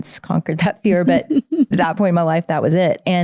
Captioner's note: laughing